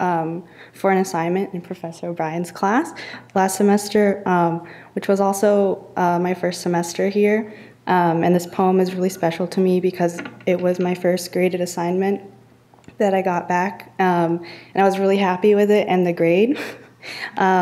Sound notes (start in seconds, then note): none